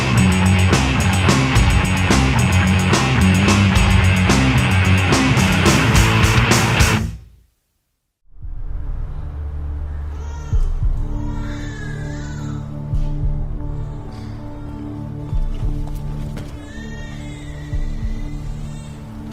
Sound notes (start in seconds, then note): 8.4 ominous music; 12.0 infant crying